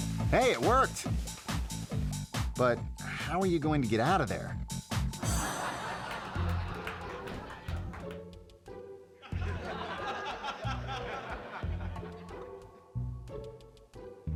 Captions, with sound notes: Hey, it worked. (upbeat music) But? How are you gonna get out of there? (audience laughing) (whimsical music) (audience laughing) (whimsical music)